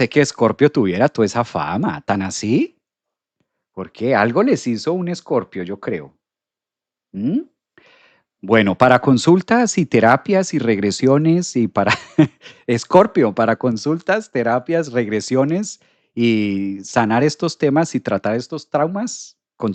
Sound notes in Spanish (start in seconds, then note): 11.8 risas